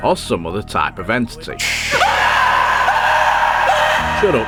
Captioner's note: banging noise and man screaming